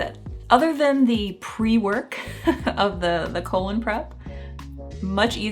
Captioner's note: chuckling